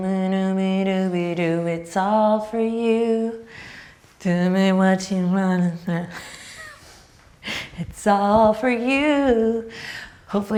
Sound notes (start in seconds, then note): 6.6 laughing